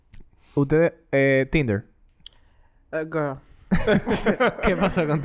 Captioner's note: laughs